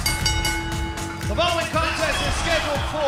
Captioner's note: bell ringing